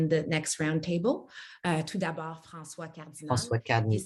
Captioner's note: speaks French